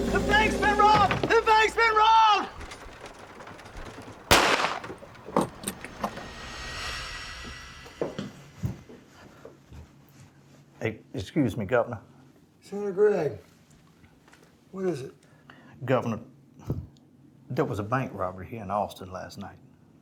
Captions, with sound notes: The bank's been robbed, the bank's been robbed! (gun firing) (gun clattering) - E-excuse me, Governor. - Senator Gregg. What is it? - Governor. There was a bank robbery here in Austin last night.